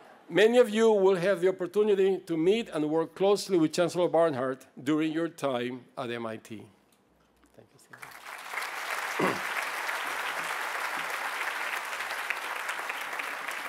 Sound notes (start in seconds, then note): 7.8 applause